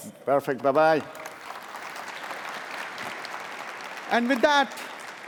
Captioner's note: applause